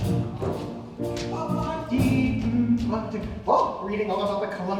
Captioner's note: Maston humming